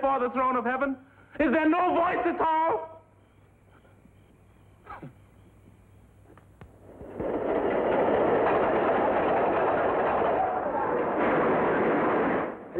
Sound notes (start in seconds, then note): 4.6 scoffs; 7.1 carts rattling loudly; 12.5 speaking in foreign language